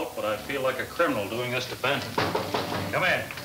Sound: knocking on door

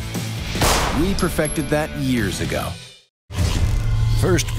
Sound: gun fires; voiceover

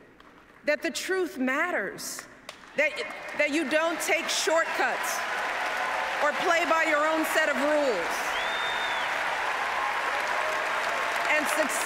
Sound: applause

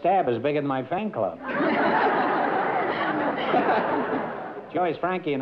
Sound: laughter

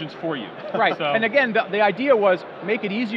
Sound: laughs

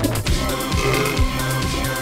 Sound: burping

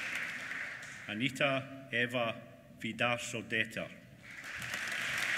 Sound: applause

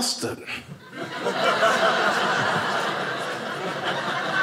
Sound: audience laughing

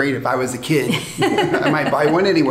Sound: both laughing

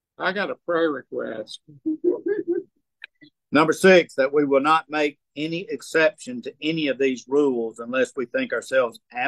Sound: laughing

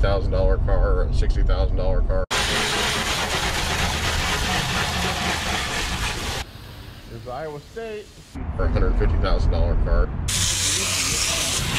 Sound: spraying

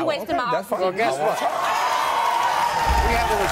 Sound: audience cheers

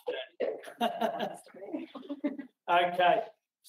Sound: laughing

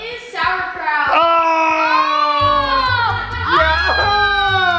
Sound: screaming

